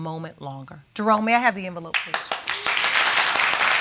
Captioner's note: audience applauding